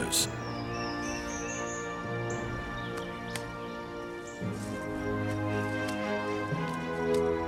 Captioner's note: birds chirping